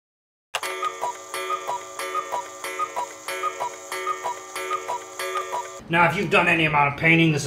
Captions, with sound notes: (Cuckoo clock strikes 8 times.) Now, if you've done any amount of painting